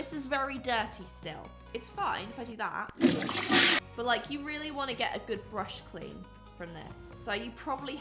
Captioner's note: toilet flushing noise